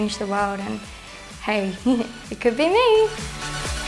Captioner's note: chuckles